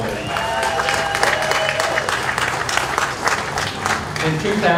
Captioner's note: crowd applauds and cheers